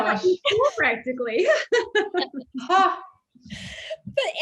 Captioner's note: all laugh